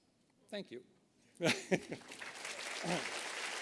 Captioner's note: laughter; applause